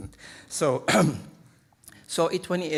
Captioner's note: clears throat